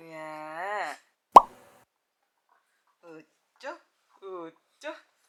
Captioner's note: mouth watering